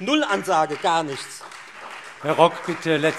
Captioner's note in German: Beifall Freie Demokraten und SPD